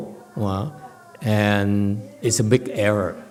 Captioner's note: none